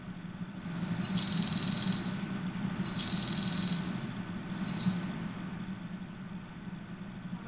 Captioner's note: phone ringing